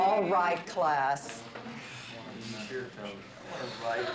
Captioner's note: laughing